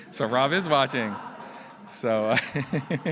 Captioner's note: laughs; laughs